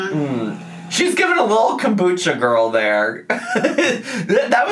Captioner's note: laughs